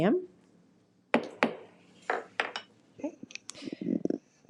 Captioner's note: gravel bangs